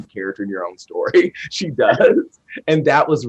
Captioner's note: group laughs